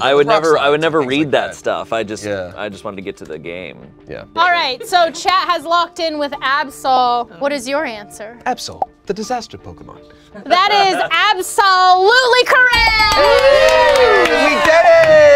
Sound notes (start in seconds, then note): 12.9 audience applauds